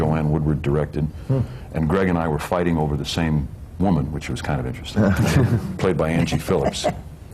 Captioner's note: laughter